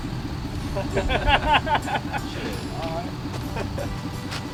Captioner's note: men laughing